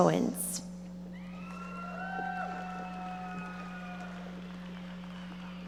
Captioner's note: audience members cheering and applauding